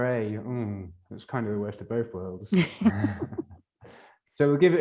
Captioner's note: laughs